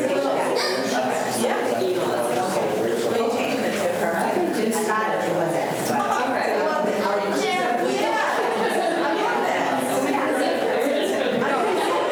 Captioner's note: students chatter